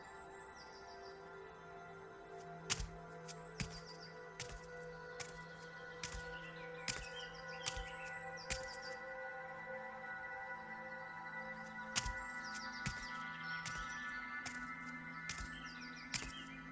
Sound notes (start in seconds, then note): 2.6 footsteps thumping